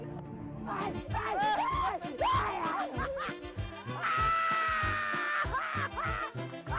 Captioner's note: screaming